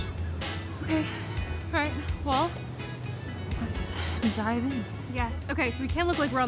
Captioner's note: sighs